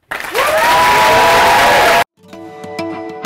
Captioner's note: applause